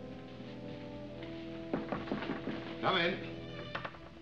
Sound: knocking

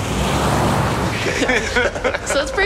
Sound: laughter

